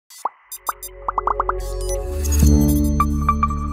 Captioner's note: bright electronic tone